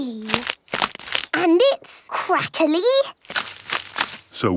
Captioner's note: crackling